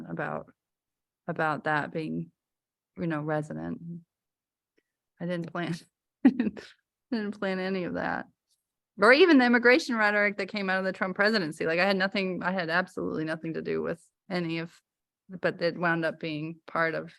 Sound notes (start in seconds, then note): 6.2 laughter